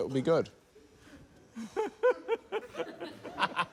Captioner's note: laughter